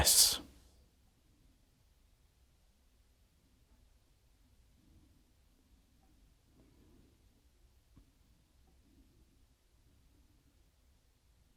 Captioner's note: silence